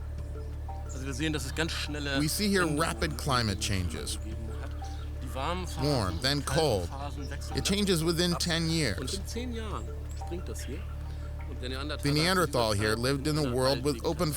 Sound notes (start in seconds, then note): 0.8 speaking in German; 1.8 voice-over